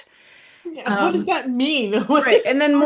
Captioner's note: laughs